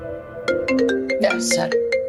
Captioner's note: mobile ringing